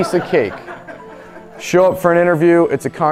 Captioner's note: audience laughing